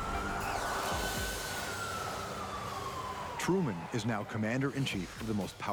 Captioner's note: sirens blaring